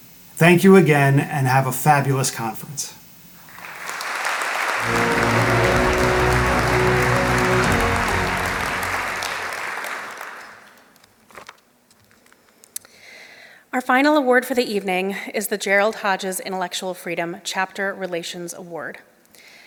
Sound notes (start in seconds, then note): 3.4 applause